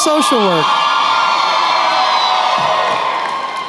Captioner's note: cheering